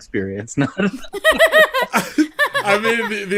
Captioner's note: laughter